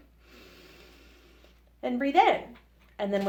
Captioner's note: takes deep breath in